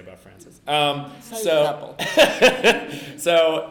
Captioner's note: laughs